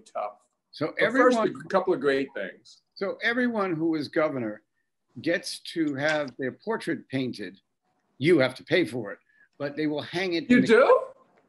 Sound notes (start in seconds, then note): none